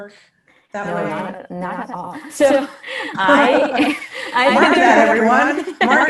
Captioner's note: both laugh